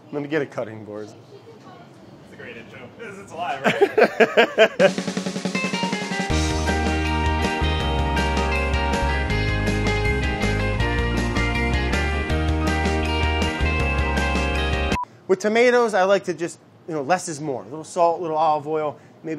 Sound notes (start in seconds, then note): 3.6 laughter; 5.0 upbeat music